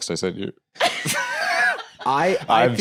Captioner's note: laughs